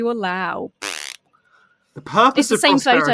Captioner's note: blows raspberry